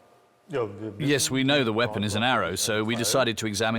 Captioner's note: in German